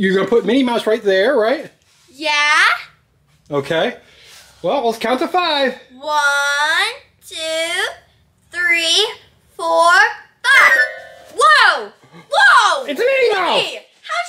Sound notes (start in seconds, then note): 10.4 playful magic sound